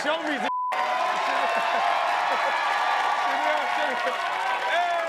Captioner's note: audience cheering and clapping